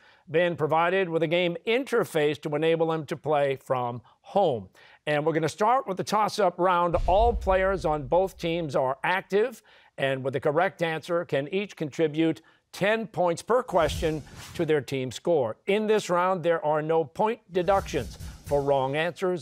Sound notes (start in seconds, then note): none